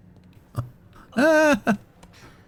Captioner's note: laughs